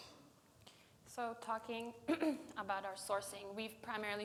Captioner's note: clears throat